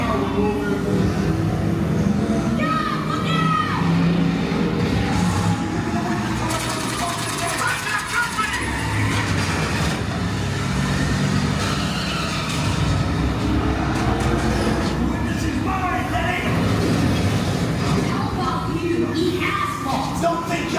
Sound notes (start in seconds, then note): 4.7 engine roaring; 4.7 gun firing; 9.9 cars crashing; 9.9 tires screeching